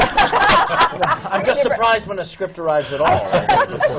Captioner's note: laughter